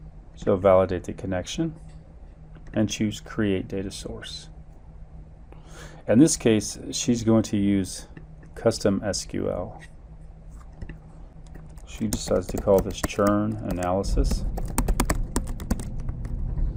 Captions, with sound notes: So validate the connection and choose Create data source. In this case, she's going to use custom SQL. She decides to call this (keyboard thumping) churn analysis,